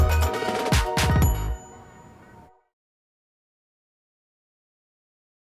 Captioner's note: notification chimes